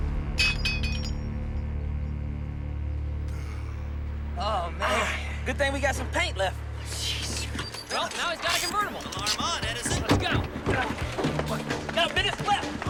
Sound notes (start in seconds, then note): 2.9 gasp